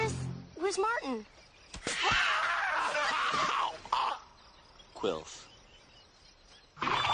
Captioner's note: screams